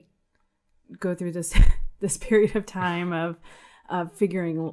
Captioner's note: chuckles